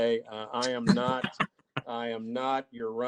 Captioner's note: laughing